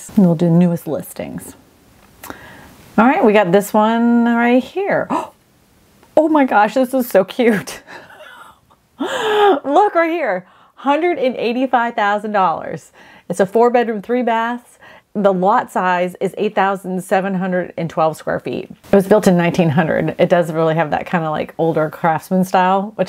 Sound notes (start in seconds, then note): 5.2 gasps